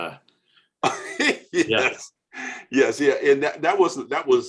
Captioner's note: laughing